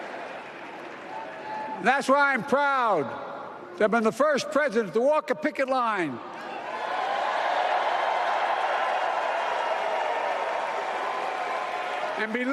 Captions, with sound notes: CLASS BUILT AMERICA AND YOU BUILT THE MIDDLE CLASS CLASS. [ APPLAUSE ].